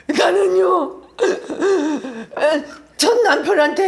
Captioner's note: crying her eyes out